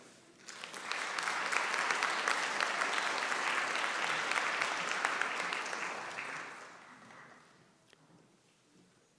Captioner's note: applause